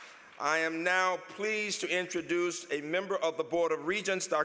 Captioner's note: applause